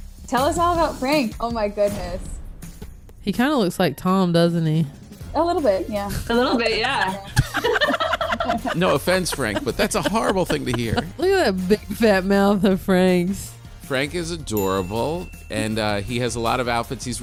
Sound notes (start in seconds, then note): 6.0 laughing